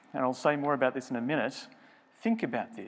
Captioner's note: none